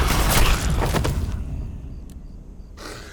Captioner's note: dramatic music; gunshot